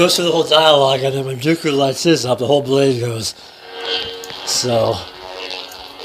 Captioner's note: saber noises